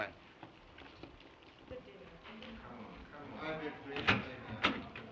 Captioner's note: indistinct chattering